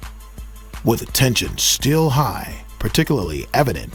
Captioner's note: voiceover